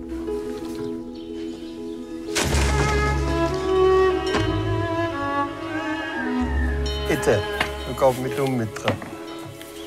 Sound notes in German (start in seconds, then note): 5.0 Vogelschreie